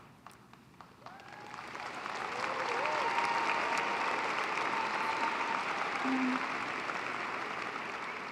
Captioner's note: applause